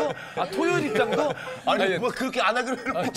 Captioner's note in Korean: 흐헤헤